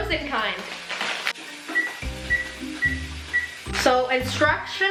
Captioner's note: beep beep beep beep